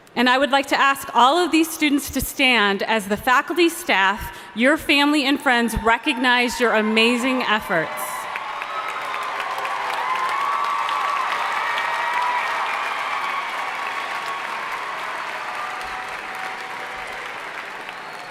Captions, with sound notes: and I would like to ask all of these students to stand as the faculty, staff, your family and friends recognize your amazing efforts. (audience cheering and applauding)